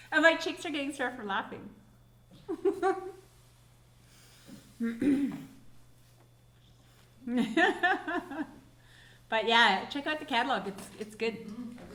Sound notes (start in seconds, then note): 2.9 laughing